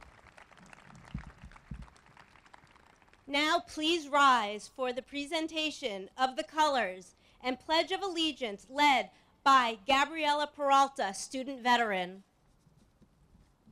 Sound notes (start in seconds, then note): 0.0 applause